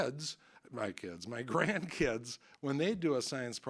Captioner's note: chuckling